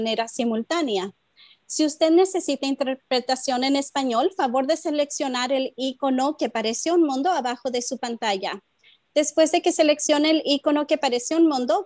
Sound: spanish

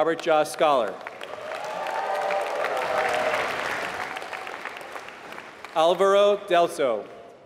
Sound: applause

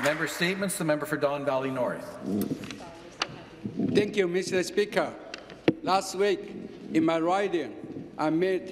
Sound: some Applause

